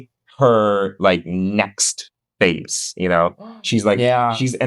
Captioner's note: gasp